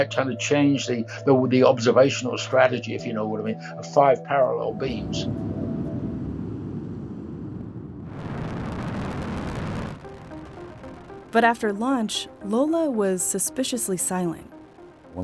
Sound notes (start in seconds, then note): 5.8 rocket launching